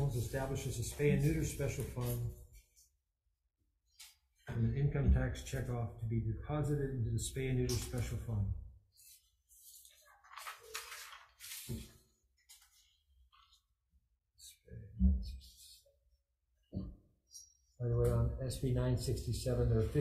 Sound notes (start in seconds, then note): 9.5 papers rustling